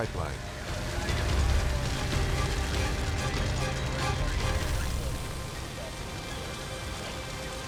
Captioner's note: dramatic music; fire whooshes